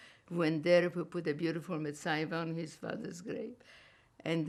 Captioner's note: yiddish